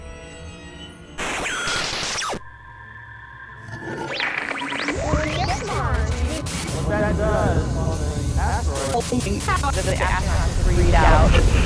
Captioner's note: sound Effects